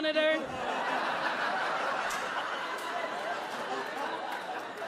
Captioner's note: audience laughing